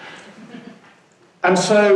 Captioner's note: laughing